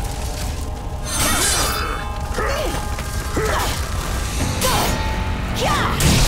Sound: grunting

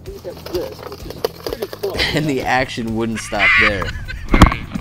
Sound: laughing

